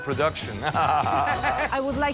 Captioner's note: laughing